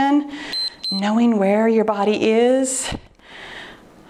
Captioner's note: timer beeps